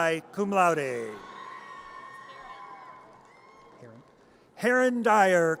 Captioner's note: audience cheers